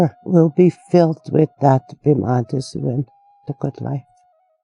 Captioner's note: speaking in foreign language